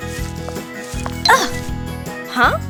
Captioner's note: grunts